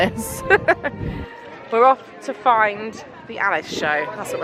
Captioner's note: laughing